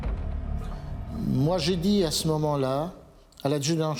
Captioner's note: speaking French